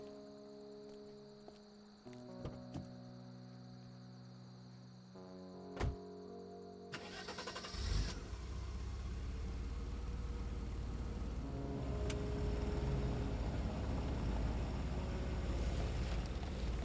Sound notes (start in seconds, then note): 0.1 car door clatters open; 0.1 insects chirping; 5.8 car door slams shut; 6.9 engine turns over and revs; 11.7 car engine rumbling